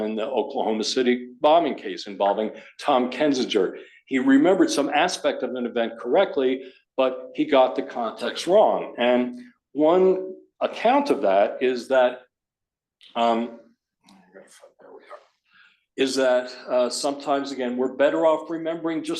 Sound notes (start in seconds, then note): 14.3 murmurs